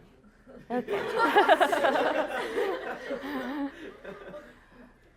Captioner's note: laughter